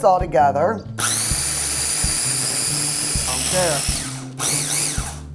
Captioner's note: blender whirring